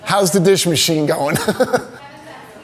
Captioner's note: laughing